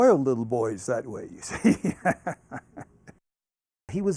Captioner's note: laughs